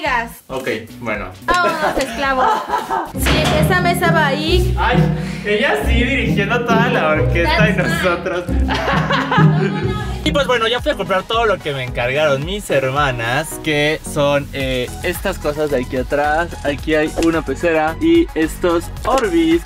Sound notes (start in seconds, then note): 7.7 laughs